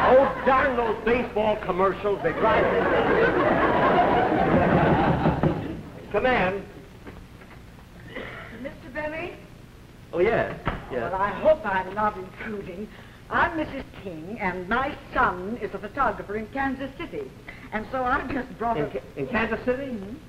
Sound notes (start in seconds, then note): 5.1 knocking